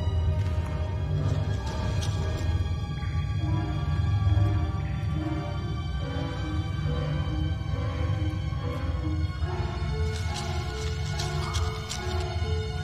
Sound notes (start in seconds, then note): 1.3 scuttling; 3.2 suspenseful music; 10.0 scuttling